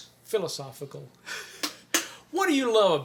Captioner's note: chuckles